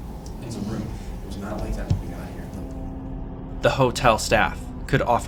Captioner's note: faintly speaking; suspenseful music